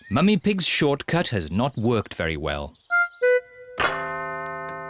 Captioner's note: clock chimes